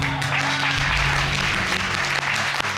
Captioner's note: audience clapping